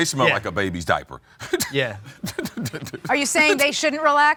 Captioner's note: laughs